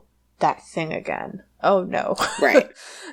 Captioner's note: laughs